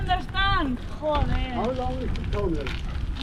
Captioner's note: cursing in Spanish